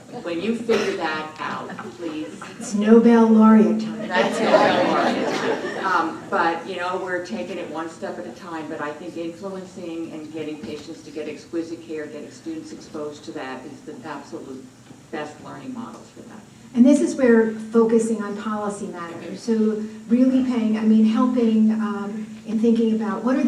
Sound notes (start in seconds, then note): 4.0 laughter